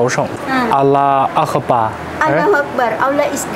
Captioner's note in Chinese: 阿拉伯语